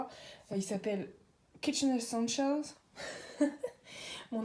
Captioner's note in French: rires